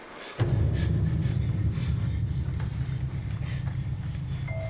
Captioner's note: panting